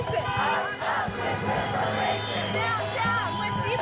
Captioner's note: crowd